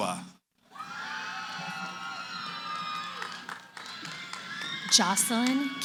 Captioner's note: cheering